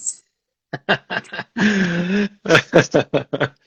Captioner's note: laughs